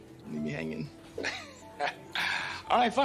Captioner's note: chuckles